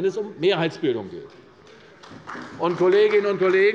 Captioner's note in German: Beifall bei der CDU